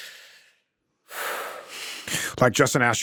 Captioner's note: Drake exhales